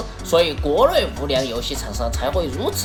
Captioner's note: chinese